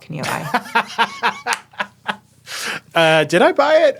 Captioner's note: laughing